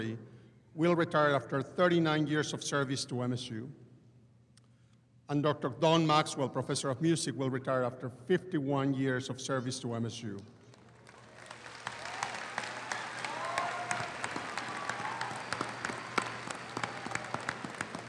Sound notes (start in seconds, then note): 10.7 audience applauding; 11.1 audience cheers